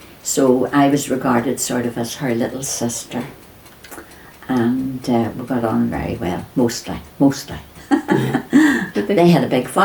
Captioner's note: laughs